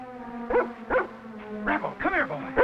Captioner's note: Rebel barking